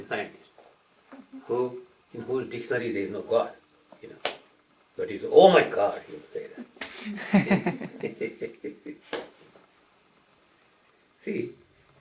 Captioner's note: laughter